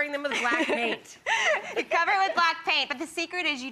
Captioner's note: laughs